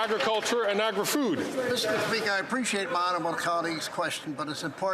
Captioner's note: some Applause